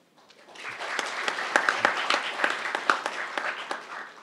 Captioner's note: crowd applauding